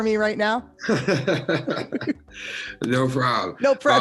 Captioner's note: laughing